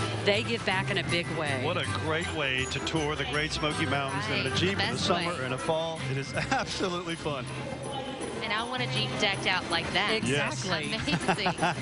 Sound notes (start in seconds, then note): 8.7 chuckles